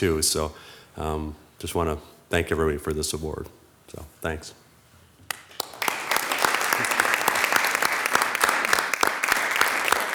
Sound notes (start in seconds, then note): 5.2 audience clapping